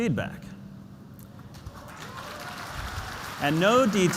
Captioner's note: applause